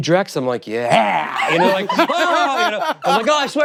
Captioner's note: laughter continues